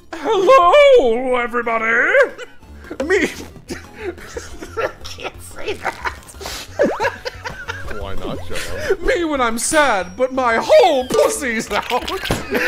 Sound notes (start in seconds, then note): 3.6 giggling